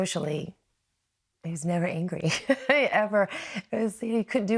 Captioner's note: laughs